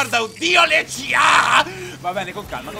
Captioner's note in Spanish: Toma aire